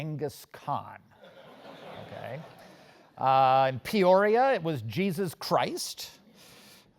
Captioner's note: laugh